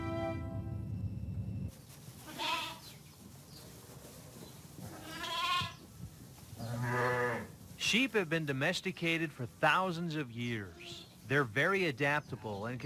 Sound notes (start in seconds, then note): 2.5 sheep bleat offscreen; 7.9 voiceover